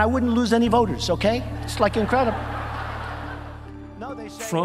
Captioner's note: audience laughing